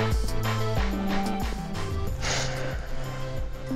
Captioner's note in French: soupir